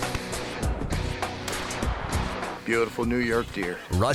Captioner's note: gun fires